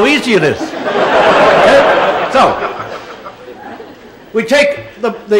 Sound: laughter

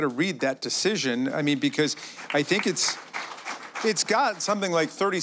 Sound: applause

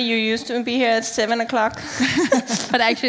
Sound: laughing

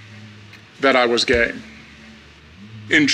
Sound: none

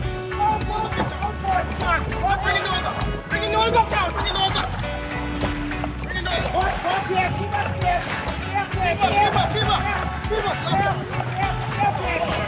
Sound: shouting

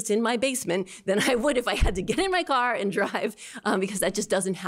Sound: laughter

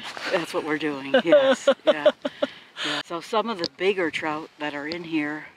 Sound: laughter

